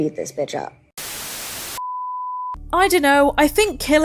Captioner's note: static